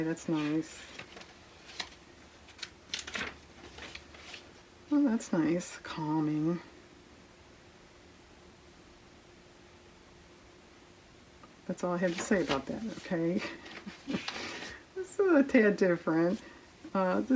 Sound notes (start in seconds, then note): 13.6 laughs